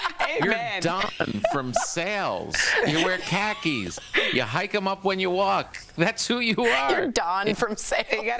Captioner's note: laughter